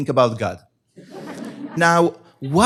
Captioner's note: laughter